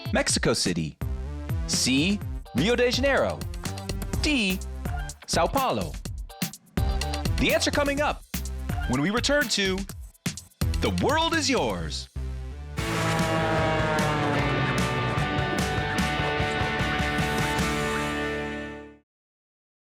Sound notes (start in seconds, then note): 12.8 plane engine roars; 12.8 energetic rock music